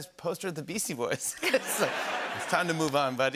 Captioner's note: laughter